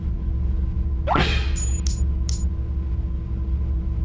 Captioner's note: coin clanks